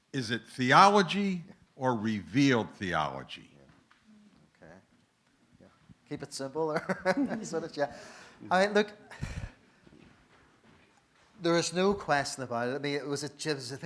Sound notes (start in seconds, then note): 6.8 laughs